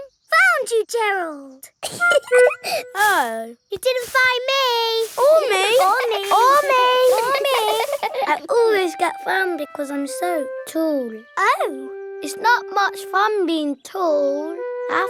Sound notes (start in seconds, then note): 1.9 giggling; 7.4 all giggling